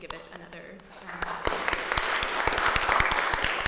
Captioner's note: applause